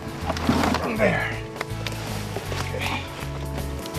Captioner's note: grunts